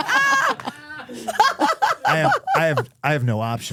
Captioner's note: laughing